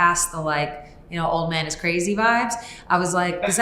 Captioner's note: chuckles